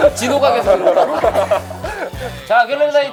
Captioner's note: laughing